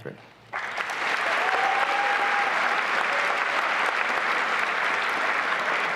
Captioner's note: applause and cheering